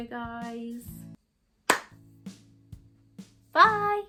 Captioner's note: claps